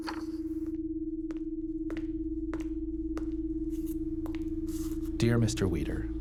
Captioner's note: footsteps padding